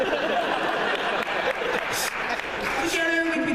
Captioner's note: laughter